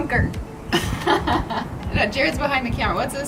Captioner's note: laughs